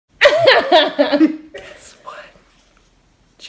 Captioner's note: laughs